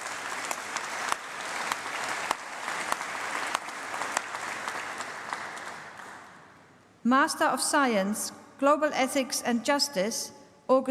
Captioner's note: applause